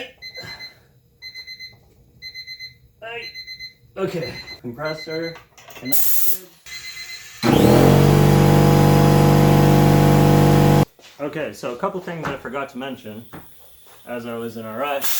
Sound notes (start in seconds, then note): 6.7 loud air compressor noise; 14.9 air compressor release value noise